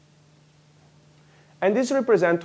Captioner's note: pause